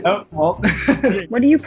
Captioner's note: laugh